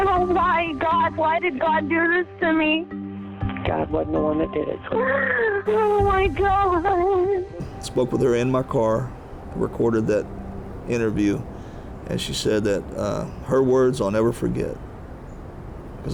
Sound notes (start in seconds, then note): 4.9 crying